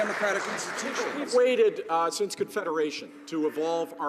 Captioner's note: some Applause